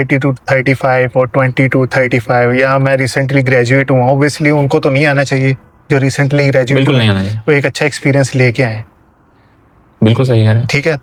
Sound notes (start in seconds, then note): none